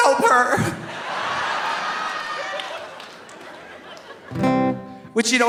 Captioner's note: audience laughing; audience cheering; guitar strumming